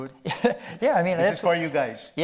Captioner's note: chuckles